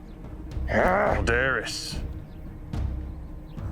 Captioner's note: manuel grunts in frustration